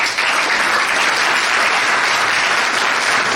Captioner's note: applause